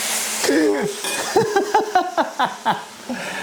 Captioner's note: laughs